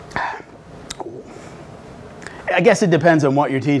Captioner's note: sighs